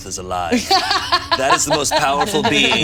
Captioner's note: laughing